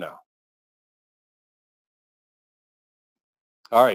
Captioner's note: pause